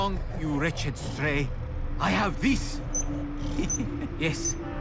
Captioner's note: device beeping